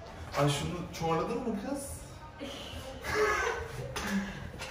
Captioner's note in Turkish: gülüşme